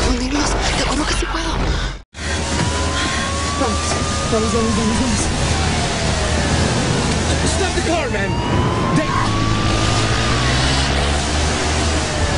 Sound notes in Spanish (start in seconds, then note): 9.1 Sirenas; 11.8 Grita